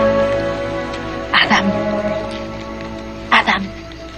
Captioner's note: whispers